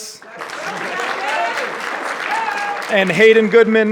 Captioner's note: audience cheering and clapping